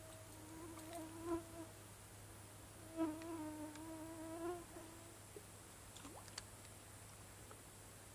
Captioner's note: mosquitoes buzzing